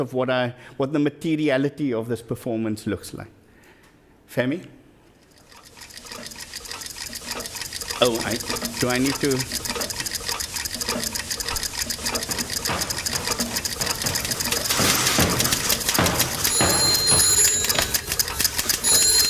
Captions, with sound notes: of what the materiality of this performance looks like. Femi? Oh, I, do I need to? (clock ticking) (bells ringing)